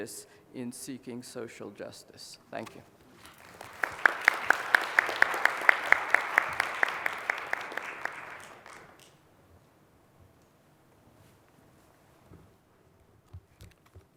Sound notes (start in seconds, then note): 3.2 applause